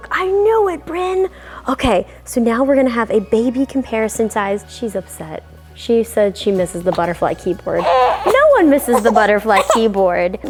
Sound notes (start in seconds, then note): 7.7 baby cries